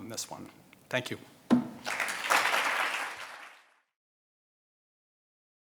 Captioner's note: audience applauding